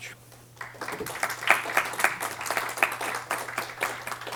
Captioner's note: applause